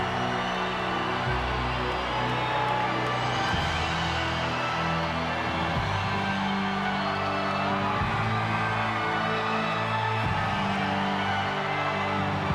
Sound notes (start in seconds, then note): 4.2 crowd cheering; 4.2 dramatic music continues